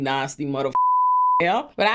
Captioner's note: beep